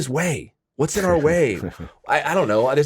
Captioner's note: chuckles